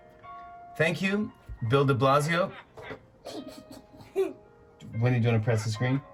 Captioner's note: laughter